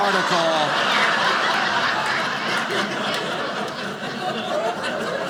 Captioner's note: audience laughing